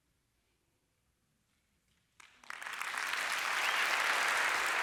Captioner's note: applause